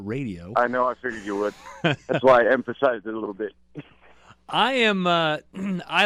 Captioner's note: laughs; laughs